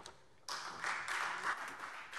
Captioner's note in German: Beifall Freie Demokraten